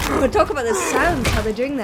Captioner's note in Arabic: دولاب وداريوس شخير